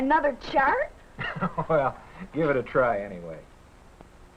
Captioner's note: chuckles